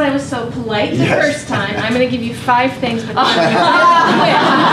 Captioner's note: laughter